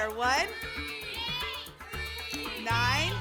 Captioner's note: audience shouting numbers